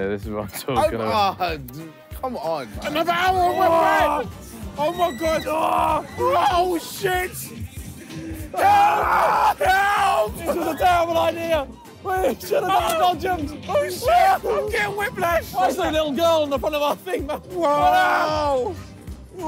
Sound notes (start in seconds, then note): 6.3 screaming; 8.5 screaming